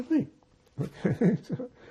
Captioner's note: laughing